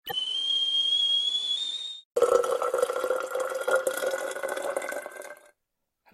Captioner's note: sound of kettle boiling and water pouring